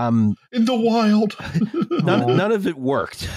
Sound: laughs

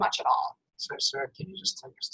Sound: voiceover

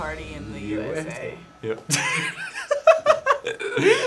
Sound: laughs

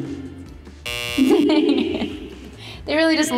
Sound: buzzer whirring

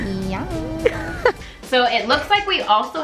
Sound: laughs

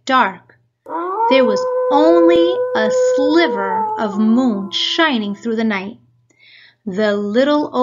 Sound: wolf howling

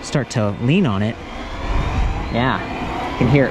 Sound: whirring

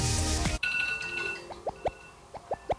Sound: beep beep beep

